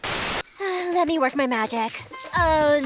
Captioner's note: sighs